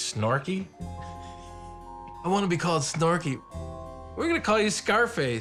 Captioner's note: laughs